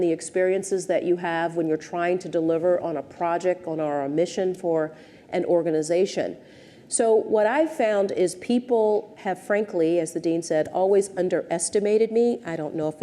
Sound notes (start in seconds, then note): none